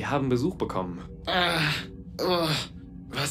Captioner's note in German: ächzt